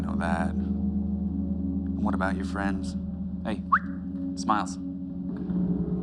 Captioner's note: whistles